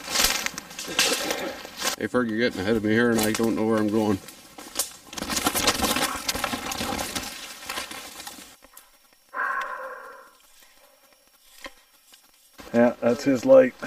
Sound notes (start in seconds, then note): 0.0 rustling sound; 4.6 rustling sound; 9.3 breathing